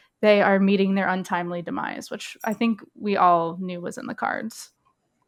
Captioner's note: none